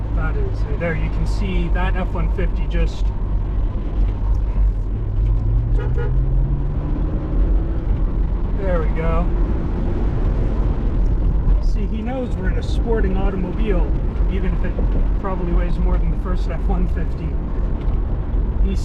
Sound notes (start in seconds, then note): 5.6 polite honks